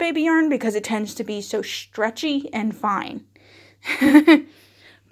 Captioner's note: laughs